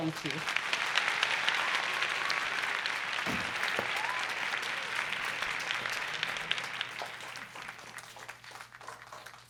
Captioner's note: applause